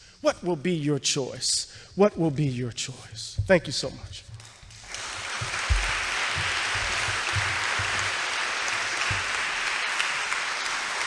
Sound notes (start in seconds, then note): 4.8 audience applauds thunderously